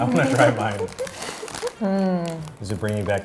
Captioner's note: laughing